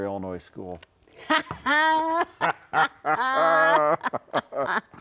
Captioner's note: both laughing